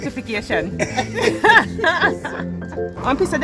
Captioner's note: everyone laughing